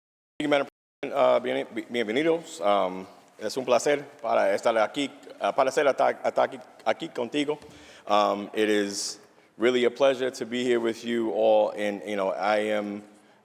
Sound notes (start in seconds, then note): 4.0 speaking spanish